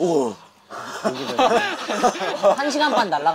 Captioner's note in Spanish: Jajaja